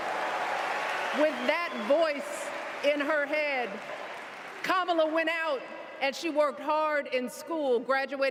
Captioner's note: cheers and applause